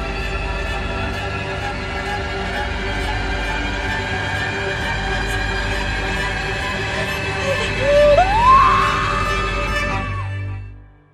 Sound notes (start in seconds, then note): 6.6 scared breathing; 7.0 screamed